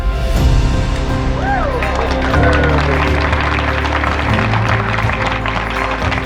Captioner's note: group cheering and applauding